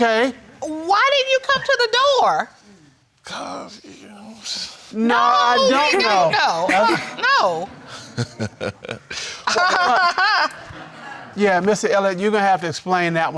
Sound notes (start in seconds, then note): 7.5 laughs; 8.6 laughs mockingly